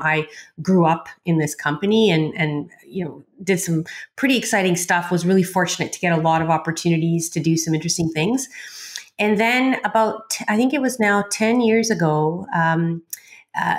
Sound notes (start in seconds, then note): none